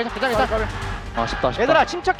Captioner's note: BuZz